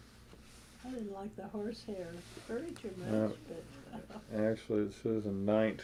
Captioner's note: laughs